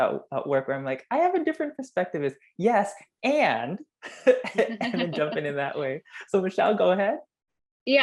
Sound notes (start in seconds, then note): 4.0 laugh